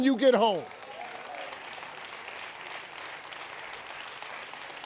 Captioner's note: audience applauds